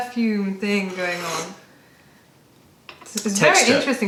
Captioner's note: sips tea